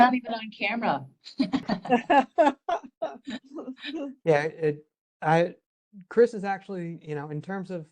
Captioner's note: laugh